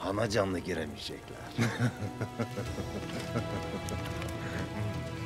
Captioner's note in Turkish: Gülme sesi